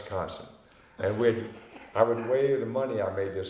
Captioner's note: laughing